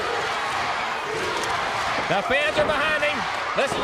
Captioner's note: crowd chatter